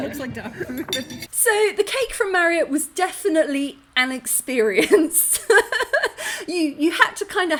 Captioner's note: laughing; laughing